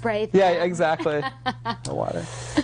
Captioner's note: laughing